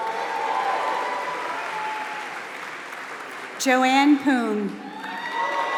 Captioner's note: applause